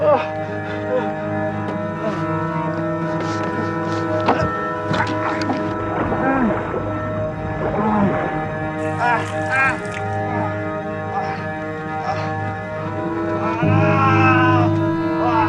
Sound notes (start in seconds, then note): 4.8 groaning; 10.6 exclamations; 13.0 crying out